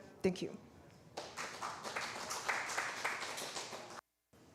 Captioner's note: applause